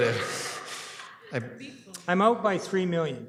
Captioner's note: laughter